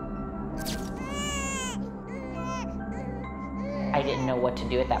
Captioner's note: baby crying